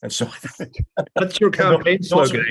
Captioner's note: laugh